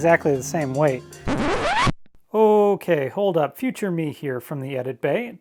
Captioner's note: vinyl record scratch